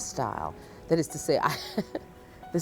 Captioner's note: giggles